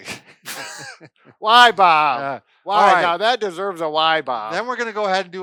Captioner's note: laughing